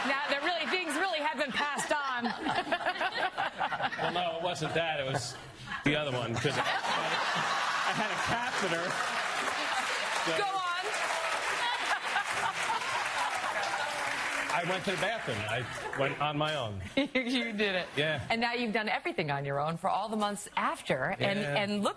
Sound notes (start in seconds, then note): 15.2 laughter and applause